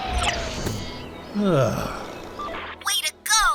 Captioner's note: sighs in relief